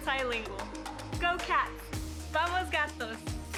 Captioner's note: speaking foreign language